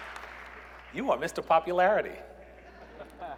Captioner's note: applause